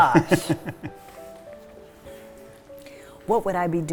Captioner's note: laughs